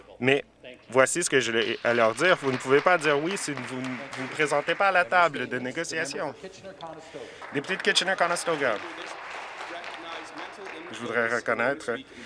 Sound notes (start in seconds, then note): 7.2 some Applause